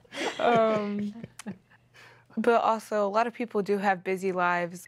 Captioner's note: laughing